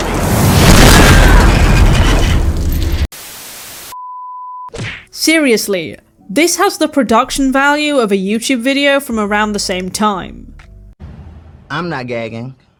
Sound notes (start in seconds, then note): 0.0 crashing; 3.2 static